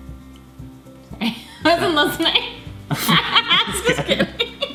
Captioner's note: laughing